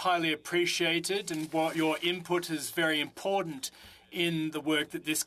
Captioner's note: speaking French